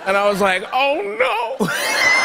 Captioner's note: laughter